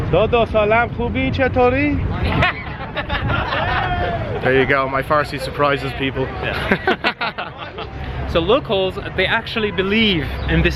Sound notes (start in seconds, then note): 0.2 foreign language; 2.2 crowd laughs; 6.4 both laugh